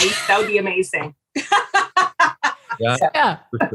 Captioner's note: laughing